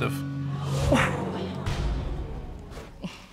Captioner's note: audience exclaiming